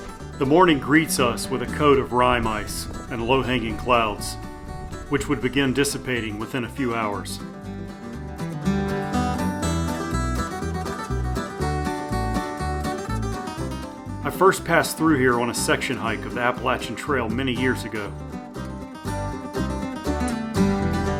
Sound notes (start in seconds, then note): 0.0 breeze; 11.7 light wind gusts